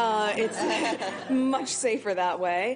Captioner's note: audience laughing